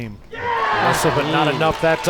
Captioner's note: crowd applauds